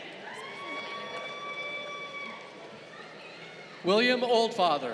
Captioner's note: crowd cheering